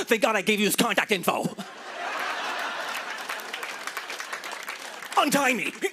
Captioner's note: laughter and applause